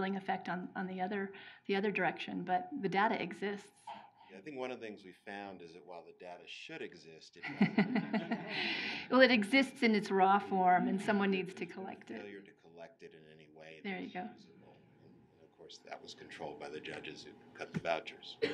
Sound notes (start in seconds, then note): 7.4 laughing